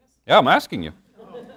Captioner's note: laughter